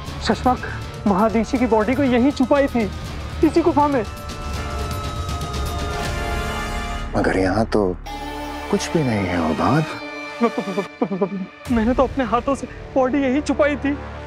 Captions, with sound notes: Shashmaag, I had hidden Maa Adishi's body right here. In this cave. [intense music playing] But I don't see anything here, Hobaad. [stammering] I hid the body here by myself.